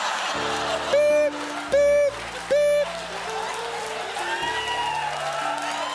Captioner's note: laughter; applause; cheers